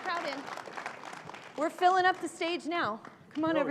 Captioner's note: applause